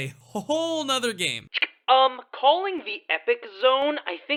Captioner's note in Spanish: En el telefono